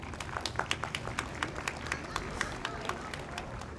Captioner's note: audience applauds